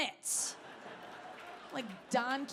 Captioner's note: audience laughing